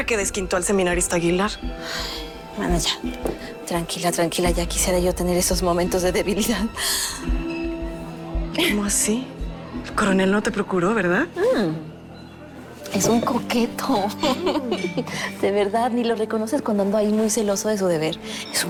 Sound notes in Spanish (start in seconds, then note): 14.0 Risas